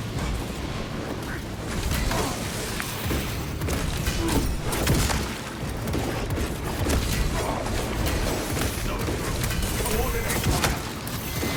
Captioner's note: gunfire